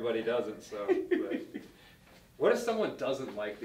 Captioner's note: laughter